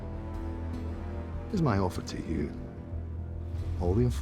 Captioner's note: tense music; scottish accent